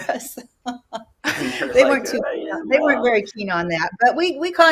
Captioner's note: laughs